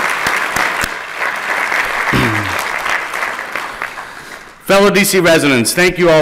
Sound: applause

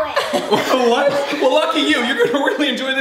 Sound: laughter

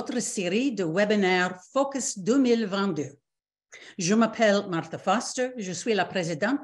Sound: repeats in French

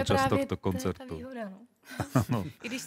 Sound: laughs

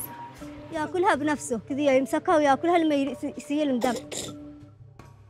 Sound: speaking in foreign language

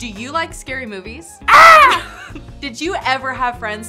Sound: laughter

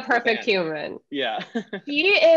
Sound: laughing

